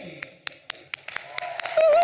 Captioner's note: audience applauding and cheering